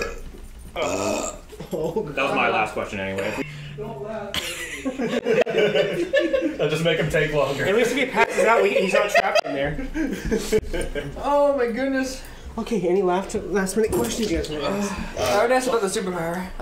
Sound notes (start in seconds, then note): 0.7 loud burp